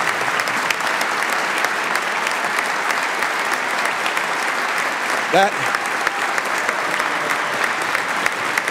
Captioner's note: applause